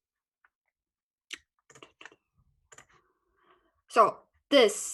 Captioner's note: keyboard clicking